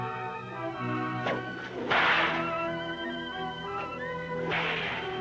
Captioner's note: cracking whip